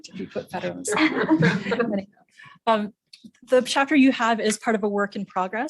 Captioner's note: laugh